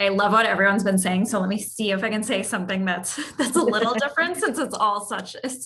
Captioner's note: laugh